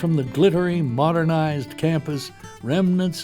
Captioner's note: voiceover